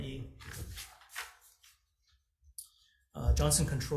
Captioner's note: paper flips